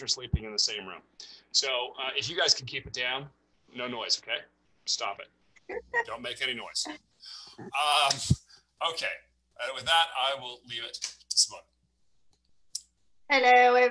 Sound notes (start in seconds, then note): 7.6 laughs